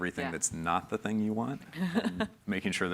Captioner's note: chuckles